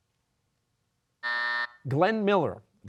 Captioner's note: buzzer